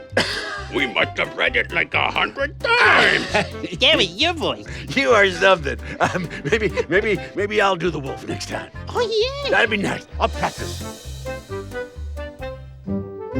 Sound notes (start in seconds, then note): 3.0 laughs; 10.7 upbeat music